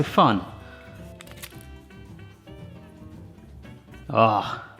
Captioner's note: upbeat jazz music; crunching